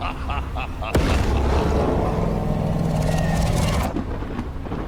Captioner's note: laughing; Romber roaring; thunder rumbling; rain pattering